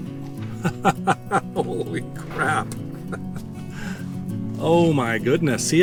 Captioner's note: laughing